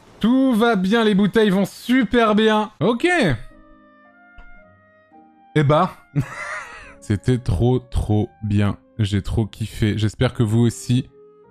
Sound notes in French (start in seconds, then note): 6.1 il rit